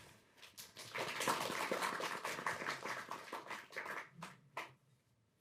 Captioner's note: audience applauding